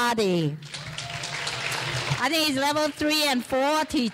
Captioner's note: clapping